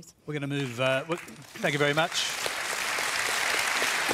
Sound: applause

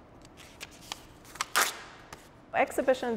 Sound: pages tear

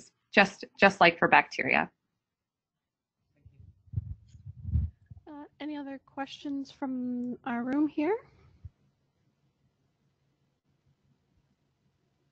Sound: pause

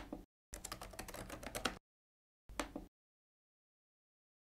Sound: keyboard clicking

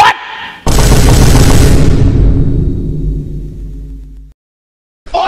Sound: BOOM x7 - slow

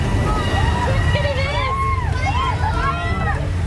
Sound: screams

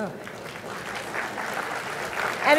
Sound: applause

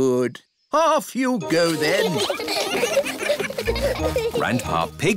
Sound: giggling

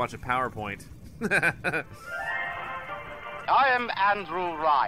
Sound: chuckles

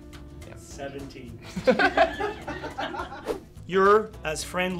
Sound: laughing

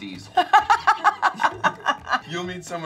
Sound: Charlize laughs

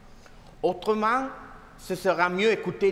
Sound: speaking french

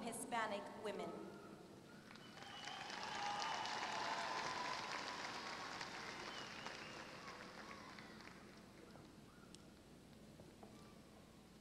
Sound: applause

